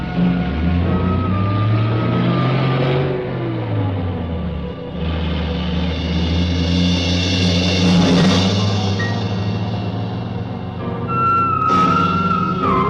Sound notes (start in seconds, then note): 1.3 engine rumbling; 6.9 suspenseful music